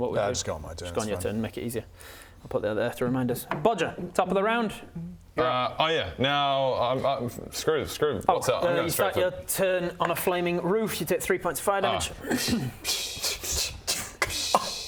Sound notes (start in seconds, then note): 12.6 tis but a scratch noises